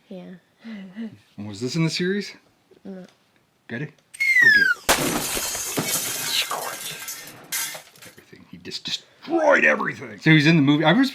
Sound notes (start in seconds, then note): 4.1 whistling sound; 4.8 crashing sound